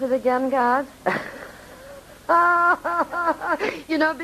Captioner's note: laughing